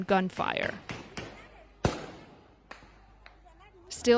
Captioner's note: gunfire blasting